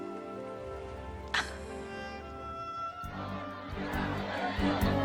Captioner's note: Jill laughing